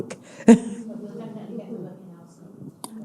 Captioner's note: all laughing